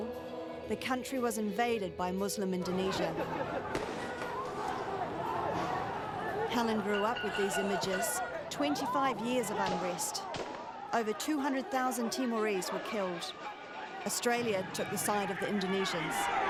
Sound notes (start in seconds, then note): 3.7 sound of gunfire